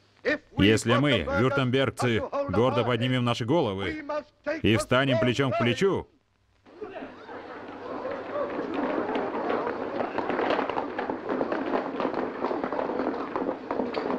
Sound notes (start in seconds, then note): 6.7 group chattering